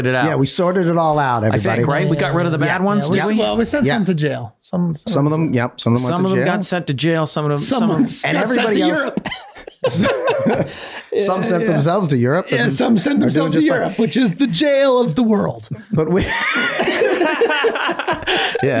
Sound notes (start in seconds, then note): 8.8 Charlie laughing; 16.2 everyone laughing